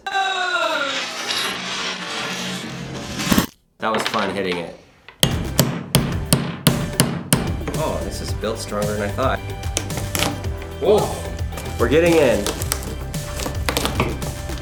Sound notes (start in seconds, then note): 0.0 yelling rewinding; 5.2 hatchet smacking